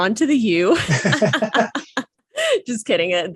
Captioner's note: both laugh